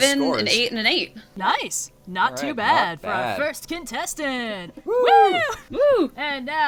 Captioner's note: general "Woo!"s